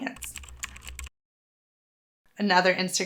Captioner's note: keyboard clicking